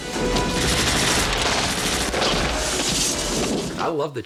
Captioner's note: dramatic music plays; gunfire